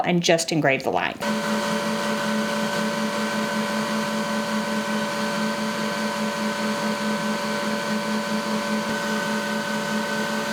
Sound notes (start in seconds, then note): 1.3 machine whirring